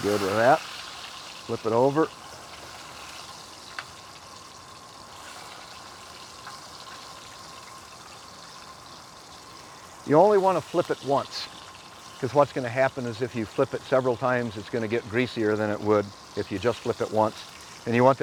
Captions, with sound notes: Pretty good with that. Flip it over. [ sizzling ] You only want to flip it once, because what's gonna happen is if you flip it several times, it's gonna get greasier than it would if you just flip it once.